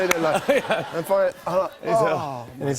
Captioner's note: sighs